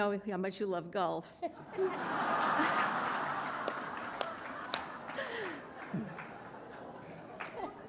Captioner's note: laughter